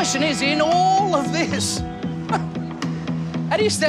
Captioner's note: chuckles